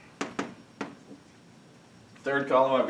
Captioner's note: chalk tapping